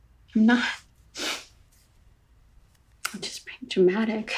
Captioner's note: sniffling